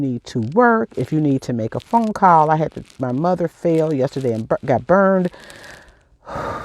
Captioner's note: breathing